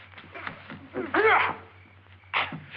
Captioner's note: groaning